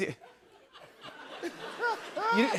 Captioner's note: laughter